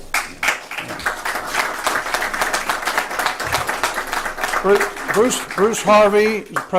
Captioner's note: applause